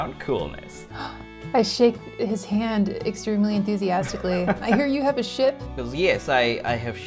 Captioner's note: gasps